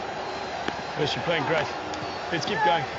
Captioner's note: claps